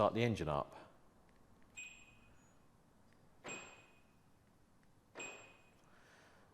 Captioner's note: presses remote - beep beep beep